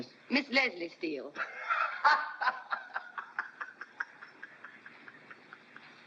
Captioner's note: Lord Mere bursts out laughing